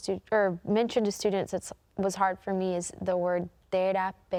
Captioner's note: in Spanish